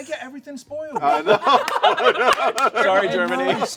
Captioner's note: laughter